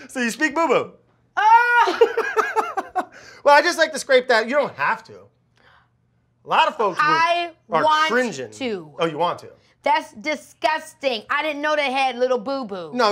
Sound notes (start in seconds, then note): 1.4 Keke shouts; 1.6 laughs